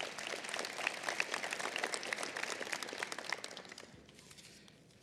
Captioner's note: applause